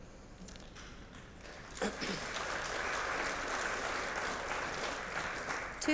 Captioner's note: applause